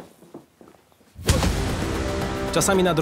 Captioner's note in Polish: dźwięk uderzenia w twarz